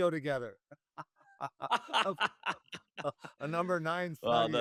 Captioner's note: laughter